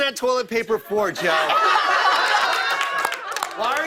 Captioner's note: laughter